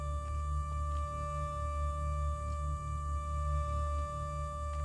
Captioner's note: bugs chirping